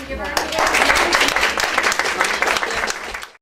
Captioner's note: applause